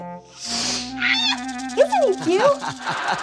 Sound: snake hiss; character screams

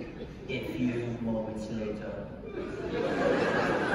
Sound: Imitating SpongeBob Narrator; laughter

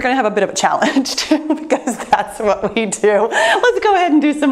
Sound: laughs

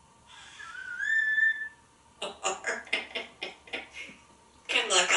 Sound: whistling & laughing his socks off

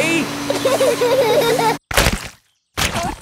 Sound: laughter

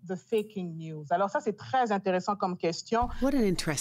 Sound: speaking French

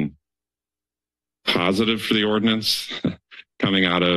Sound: chuckles

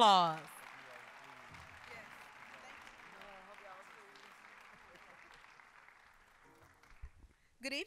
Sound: applause

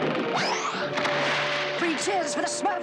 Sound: boat crashing

